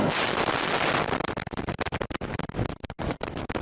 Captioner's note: explosion